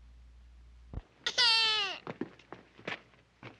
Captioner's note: baby cries